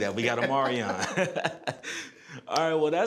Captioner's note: laughs